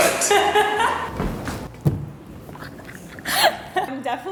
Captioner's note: laughing